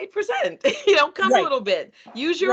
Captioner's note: chuckling